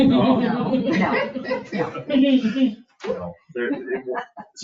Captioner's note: people chuckle